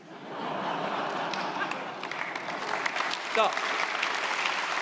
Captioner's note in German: Lachen, Applaus